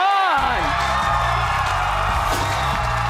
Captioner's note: audience cheering; upbeat music